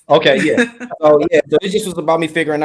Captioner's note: laughs